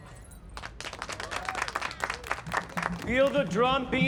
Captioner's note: applause